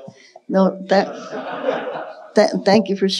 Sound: audience laughing

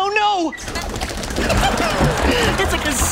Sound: laughing

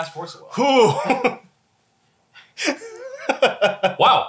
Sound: laughs

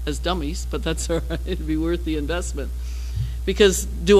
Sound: laugh

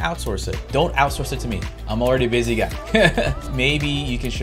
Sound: laughs

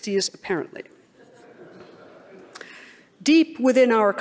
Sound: laughing

